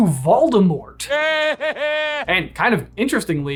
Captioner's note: Voldemort laughing